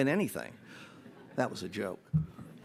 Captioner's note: audience laughs